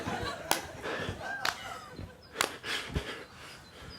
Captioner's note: breathing heavily